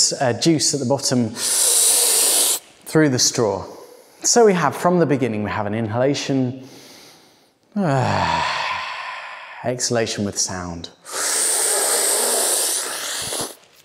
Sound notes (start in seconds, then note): 7.7 exhales; 11.0 sucking inhale